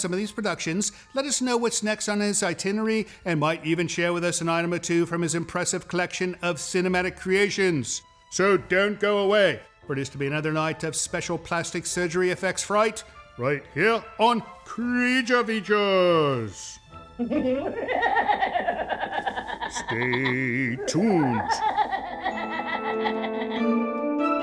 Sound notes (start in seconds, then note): 17.2 upsetting bone laughter; 22.0 more upsetting bone laughter